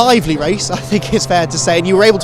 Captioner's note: engines roaring